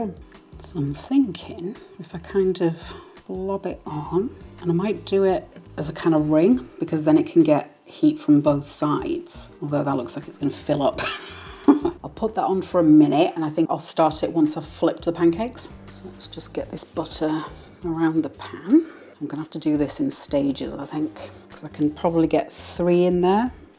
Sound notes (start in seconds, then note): 11.0 laugh